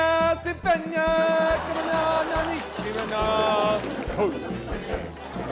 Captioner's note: laughter